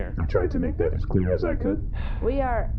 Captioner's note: passive-aggressively chastising; PLECK sighs